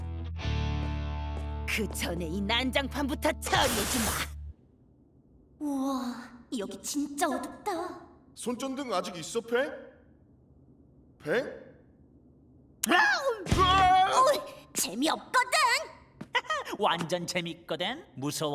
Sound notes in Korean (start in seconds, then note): 12.9 팽의 비명; 13.0 놀라는 소리; 14.2 짜증의 탄성; 16.5 웃음소리